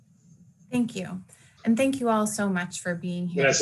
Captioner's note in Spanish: hablando en ingles